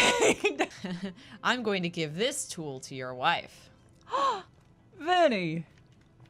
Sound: gasps

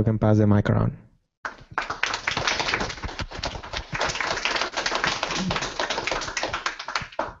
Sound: applause

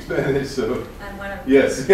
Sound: non-english speech

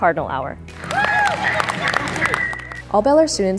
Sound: cheering

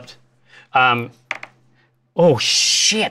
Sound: die clatters

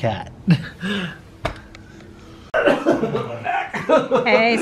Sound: laughing

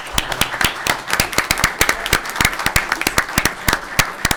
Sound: audience applauding

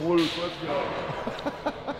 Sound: laugh

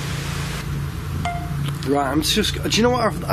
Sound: device beeps

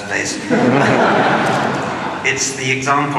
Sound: laughter

